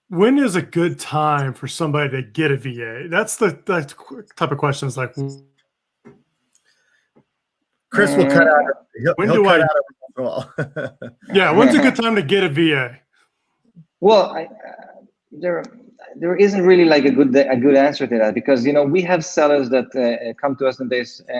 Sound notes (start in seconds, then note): 9.3 faintly speaking; 10.1 laughs